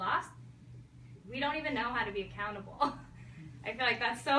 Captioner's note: chuckles